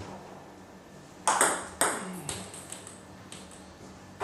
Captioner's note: ball ping pong hitting